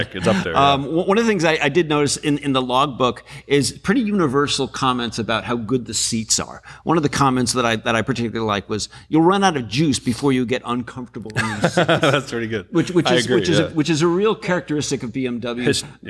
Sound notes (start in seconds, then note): 11.4 laughs